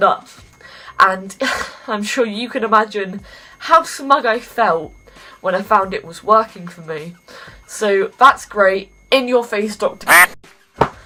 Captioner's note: duck quack